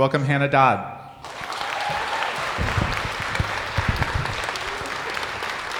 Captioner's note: audience applauding